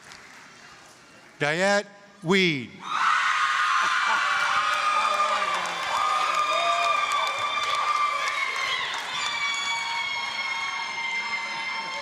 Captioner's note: applause, screaming